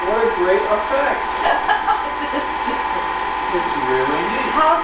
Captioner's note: laughing